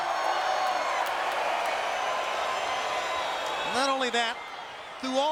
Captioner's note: applause